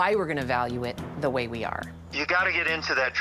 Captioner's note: on speakerphone